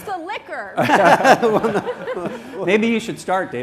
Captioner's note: laughter